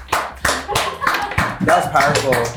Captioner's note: people laughing